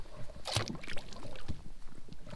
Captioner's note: splash